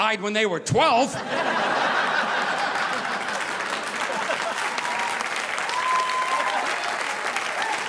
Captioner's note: audience laughing; audience applauding